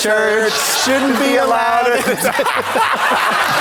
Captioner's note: blonde Women in unison; audience laughs